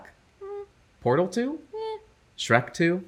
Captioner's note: eh